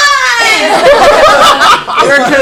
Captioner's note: laughter